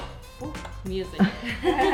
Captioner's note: upbeat music; tool snapping